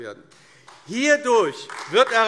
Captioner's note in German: Beifall AfD